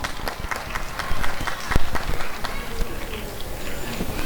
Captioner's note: applause and cheering